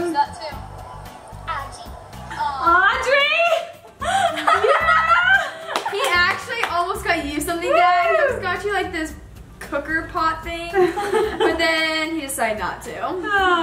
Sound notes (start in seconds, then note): 3.9 laughing; 5.6 clapping